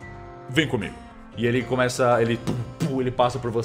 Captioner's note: heavy steps